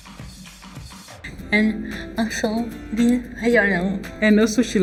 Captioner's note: speaking English